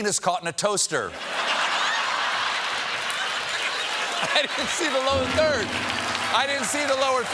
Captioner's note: laughter